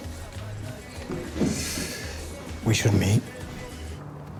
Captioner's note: exhales